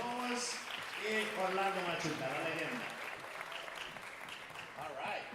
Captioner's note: speaker speaking Spanish